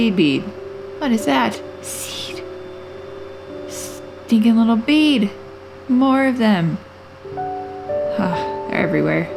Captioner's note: whisper; regular voice